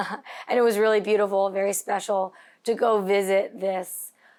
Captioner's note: laughs